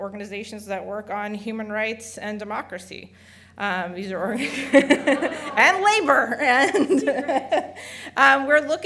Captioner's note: laughing